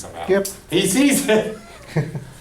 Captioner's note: voiceover